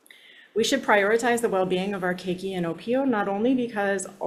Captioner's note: speaks Hawaiian